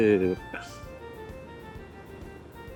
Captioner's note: laughs